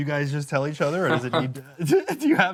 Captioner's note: chuckles